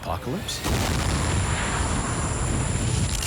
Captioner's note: explosion